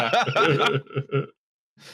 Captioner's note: laughter